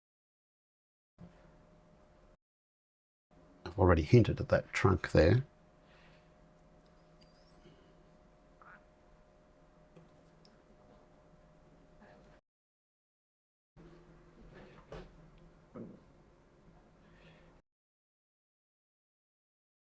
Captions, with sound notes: I've already hinted at that trunk there. [silence]